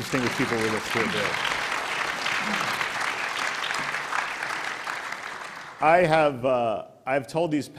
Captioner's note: applause